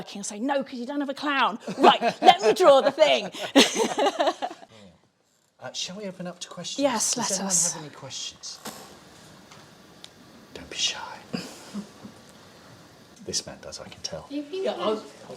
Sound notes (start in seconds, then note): 10.2 whispers